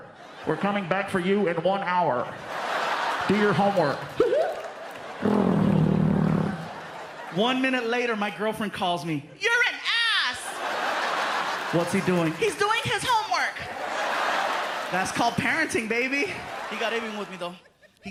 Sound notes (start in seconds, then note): 3.9 imitates siren warbling; 5.0 imitates car driving away